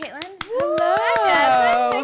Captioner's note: applauding